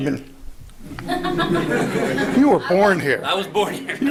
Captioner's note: laughter